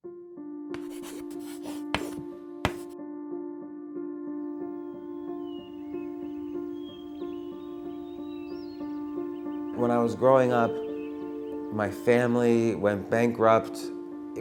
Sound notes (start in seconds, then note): 0.5 light piano music; 0.7 the sound of chalk on a chalkboard; 4.8 birds chirping